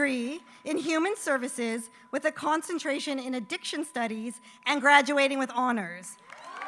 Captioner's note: applause